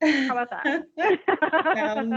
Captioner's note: laughing